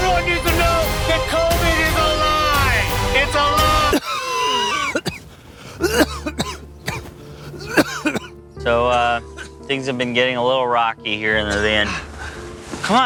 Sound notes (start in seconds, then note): 3.8 Derek coughing